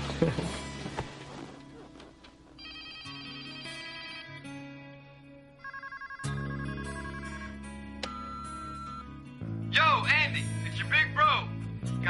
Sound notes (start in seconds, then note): 0.0 both laugh; 0.1 phone rings; 7.9 answering machine beeps